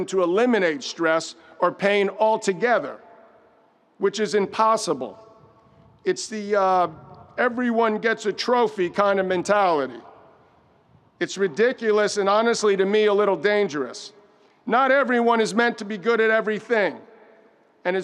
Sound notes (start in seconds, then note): none